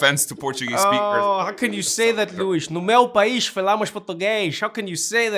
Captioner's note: speaking Portuguese